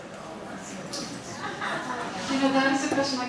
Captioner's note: audience laughing